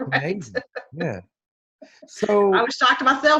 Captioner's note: laughs